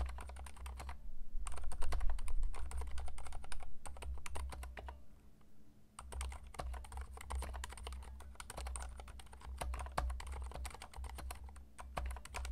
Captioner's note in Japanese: 打鍵音